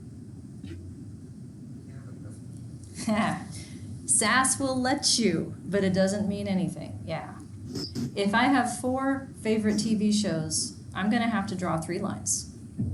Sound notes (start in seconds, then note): 3.0 chuckles